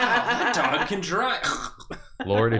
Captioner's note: death noises